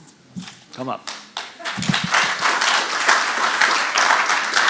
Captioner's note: audience applauding